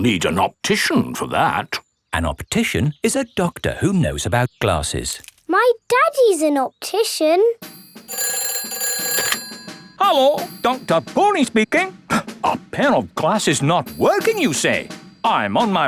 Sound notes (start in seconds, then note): 7.9 ringing